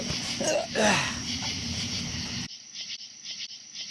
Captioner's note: Buck laughs; Detective Rhome gasping; both groaning